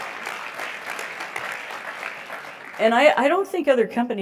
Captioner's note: applause